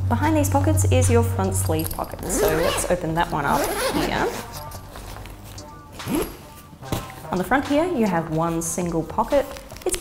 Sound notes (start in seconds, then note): 2.2 zipper buzzing